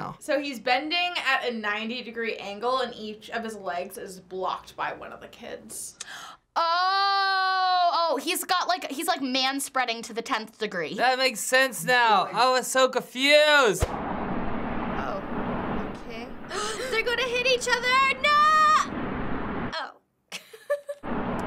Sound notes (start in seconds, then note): 16.5 both gasp; 20.3 chuckles